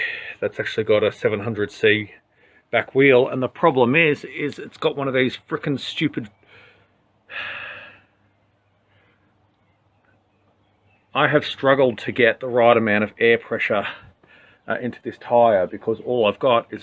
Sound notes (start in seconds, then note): 10.2 sighs